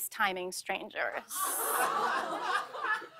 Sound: laughter

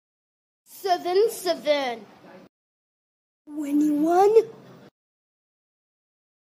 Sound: none

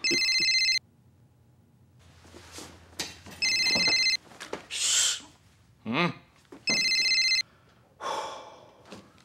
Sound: phone Rings

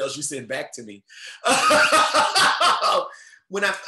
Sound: chuckles loudly

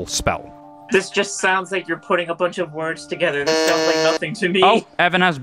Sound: buzzes

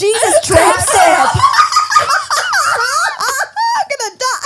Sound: everyone laughs

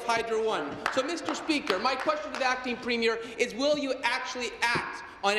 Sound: applause

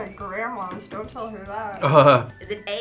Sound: chuckles

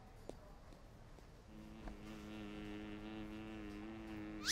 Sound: buzzing

